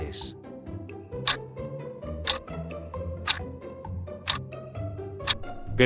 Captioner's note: FX - Clock Tick